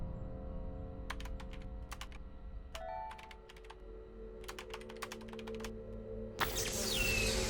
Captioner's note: keyboard clacking; notifications chiming; eerie music; static crackling